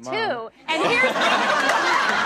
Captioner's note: audience laughs